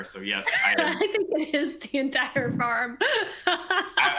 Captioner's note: laughs